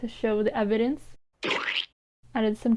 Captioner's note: splat